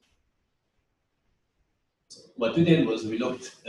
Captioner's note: pause